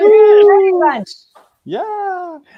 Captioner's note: laughing; all cheering